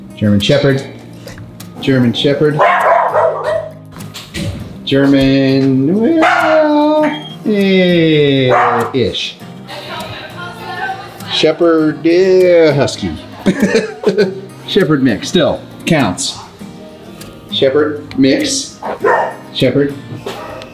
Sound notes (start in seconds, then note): 2.6 dog barking; 13.4 laughs; 18.8 dog barks